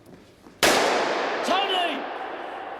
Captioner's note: gunfire blasting